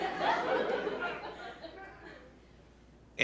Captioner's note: laughter